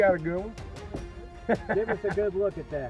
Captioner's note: laughs